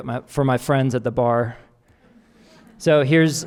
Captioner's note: audience laughing